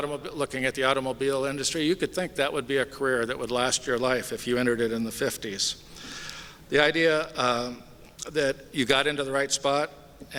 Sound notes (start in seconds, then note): none